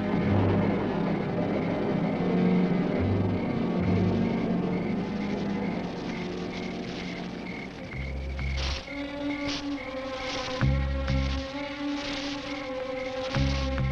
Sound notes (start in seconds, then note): 0.1 thunder rumbling; 8.5 leaves crunching